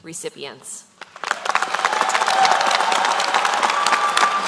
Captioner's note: applause